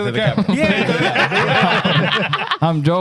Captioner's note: laughing